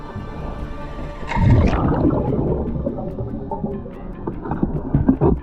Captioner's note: water gurgling continues